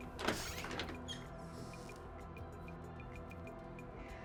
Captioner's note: door squeaks